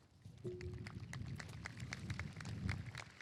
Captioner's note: applause